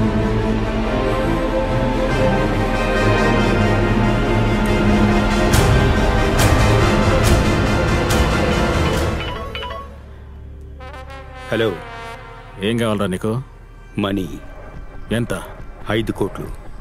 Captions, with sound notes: [Cell phone rings] Hello. What do you want? Money. How much? - Fifty million.